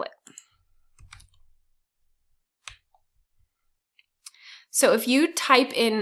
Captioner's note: keyboard keys clicking